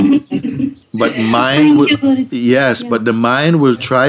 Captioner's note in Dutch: gelach